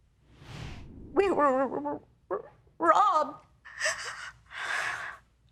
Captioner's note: voice breaking